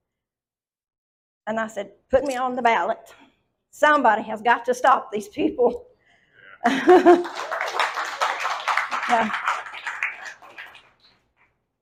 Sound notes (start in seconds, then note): 6.7 audience applauds